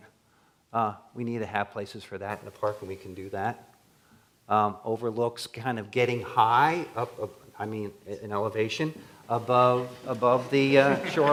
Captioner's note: laughter